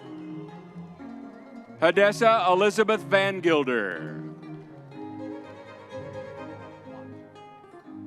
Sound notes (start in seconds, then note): 5.2 crowd cheering